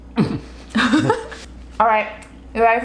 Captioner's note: laughing